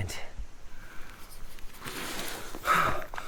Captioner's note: insects chittering; Pete panting